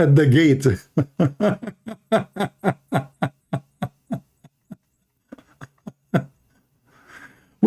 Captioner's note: Ketawa